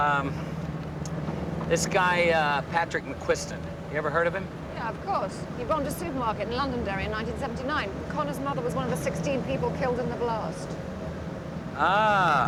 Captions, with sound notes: (tires squeal) So Conner never met you at the airport,